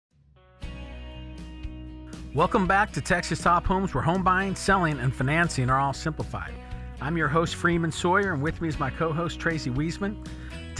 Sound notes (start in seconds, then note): 0.0 country instrumental music; 2.2 voiceover